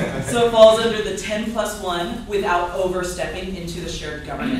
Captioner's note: laughter